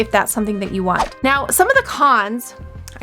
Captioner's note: whoosh